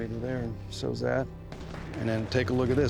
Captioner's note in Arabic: فلاش باك، إطلاق نار